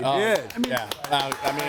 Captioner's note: audience applauds